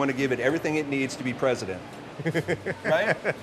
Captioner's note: laughs